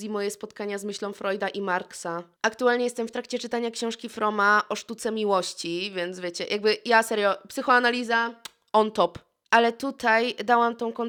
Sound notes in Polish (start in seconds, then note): 8.4 cmoknięcie